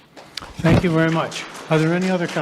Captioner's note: attendees applauding